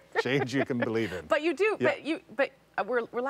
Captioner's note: laughter